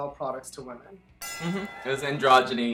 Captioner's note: bell ringing